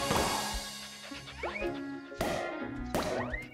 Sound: panting

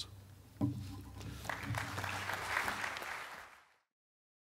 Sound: audience applauds

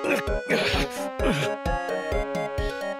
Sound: McCree grunting

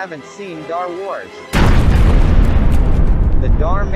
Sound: big explosion

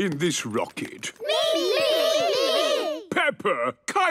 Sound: calling out in turn

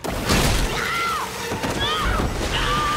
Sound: screaming

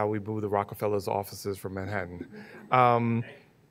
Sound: laughing

